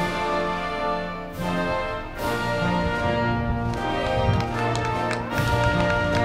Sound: band music; crowd clapping

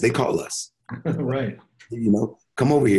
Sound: chuckling

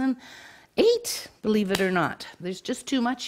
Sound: hands tapping

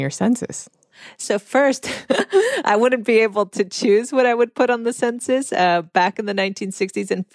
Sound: laughs

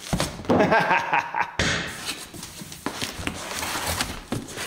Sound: pleased laughter

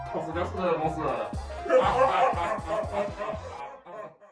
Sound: evil laugh

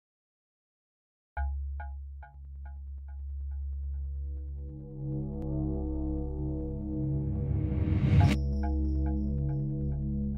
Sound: sound of universe

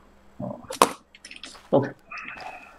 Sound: drops pen

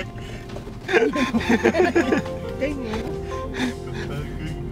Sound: laughter

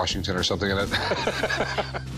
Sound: laughs

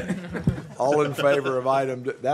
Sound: laughter

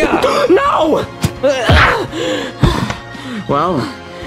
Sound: punch thuds; both panting

